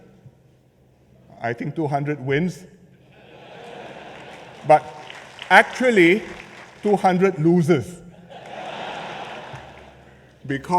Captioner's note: laughter